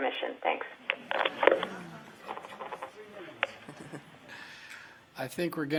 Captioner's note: audience laughing